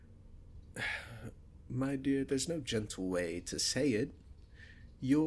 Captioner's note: sighs